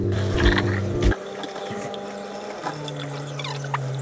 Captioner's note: construction noise